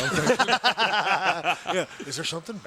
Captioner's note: laugh